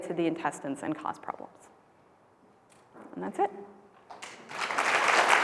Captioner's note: applause